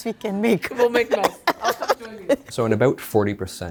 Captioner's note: laughing